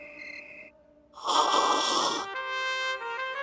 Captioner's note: slurping